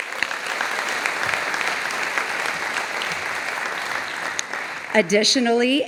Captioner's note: audience applauding